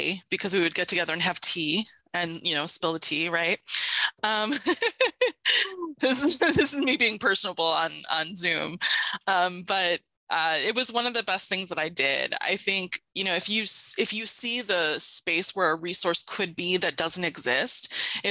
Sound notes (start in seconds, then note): 4.5 laughs